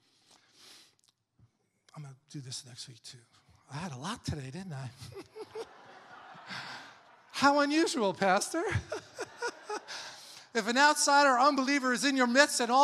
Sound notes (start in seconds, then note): 5.0 congregation laughing